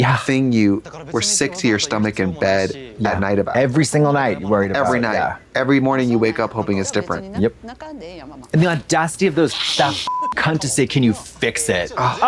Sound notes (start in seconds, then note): 10.0 beep